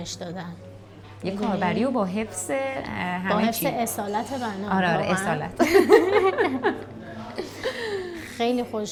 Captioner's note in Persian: خنده